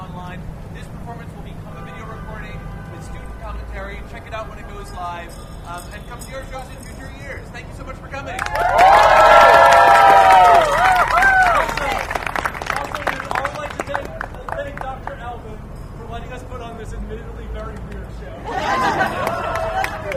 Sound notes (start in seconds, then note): 8.4 audience cheers and applause; 18.4 laughter